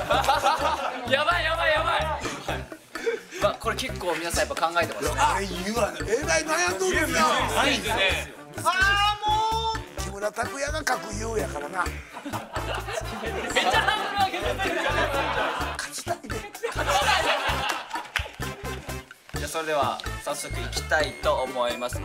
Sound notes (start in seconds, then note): 12.1 laughter; 17.7 laughs